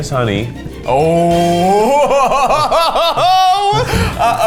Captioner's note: laughs